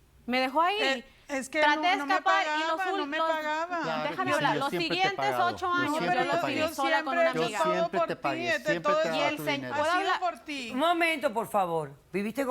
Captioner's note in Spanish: Hablan al unísono